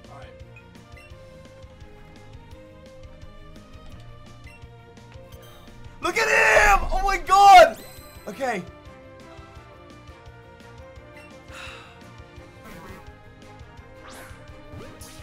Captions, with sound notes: Look at him! Oh my god! Okay. (deeply breathes)